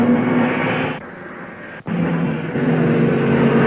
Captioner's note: cars revving